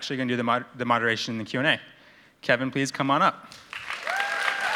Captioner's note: applause